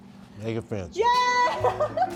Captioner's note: cheering; giggling